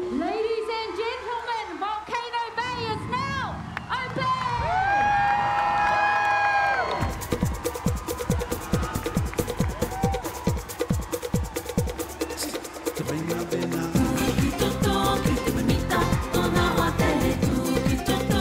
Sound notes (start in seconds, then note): 4.8 cheering